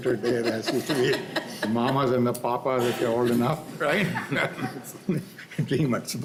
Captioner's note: laughter